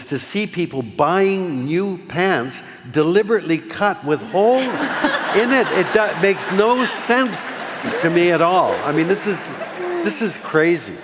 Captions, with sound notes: to see people buying new pants, deliberately cut with holes in it. It does, it makes no sense. [ Laughing ] To me at all. I mean this is, this is crazy.